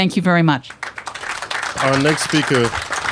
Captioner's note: applause